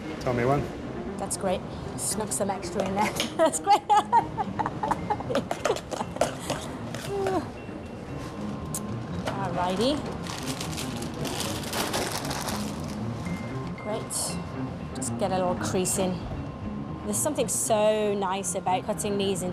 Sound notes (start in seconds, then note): 5.5 chuckles